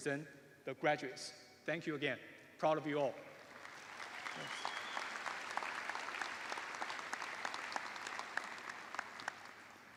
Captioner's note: applause